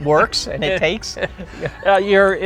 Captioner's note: laughs